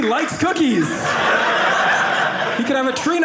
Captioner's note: audience laughing